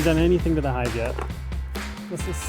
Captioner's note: tool clinking